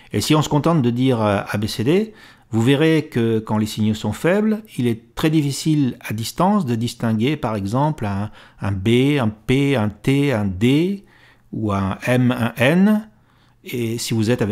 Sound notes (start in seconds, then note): 9.5 in french